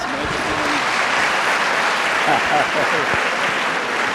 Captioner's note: applause